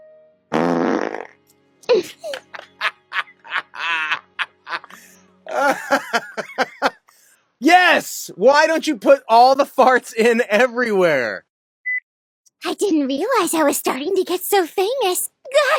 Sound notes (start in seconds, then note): 0.5 comedically-timed flatulence sound effect; 1.9 sobbing; 2.8 Eric Vale's juvenile laughter